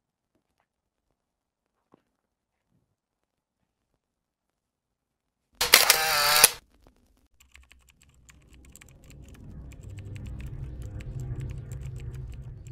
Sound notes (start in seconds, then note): 5.6 camera clicking; 8.4 keyboard clacking; 10.0 ominous music